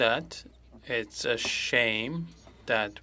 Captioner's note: speaking French